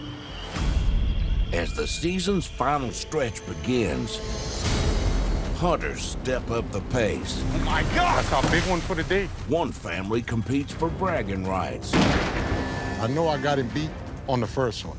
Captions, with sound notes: As the season's final stretch begins, hunters step up the pace... -Oh, my God! -That's our big one for the day. One family competes for bragging rights... [gunshot] I know I got him beat on the first one.